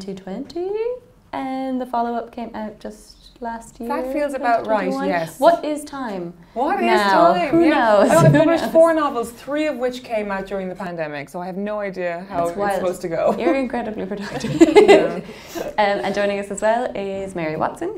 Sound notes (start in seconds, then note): 14.3 laughing